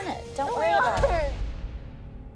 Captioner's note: crying